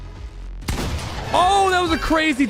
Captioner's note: gun blasts